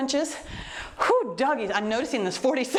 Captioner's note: exhales deeply